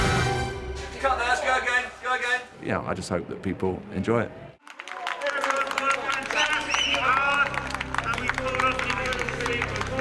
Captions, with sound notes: Cut! Nice, go again, go again. Oh, I just hope that people enjoy it. [people applauding]